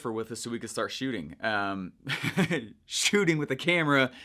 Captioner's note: laughing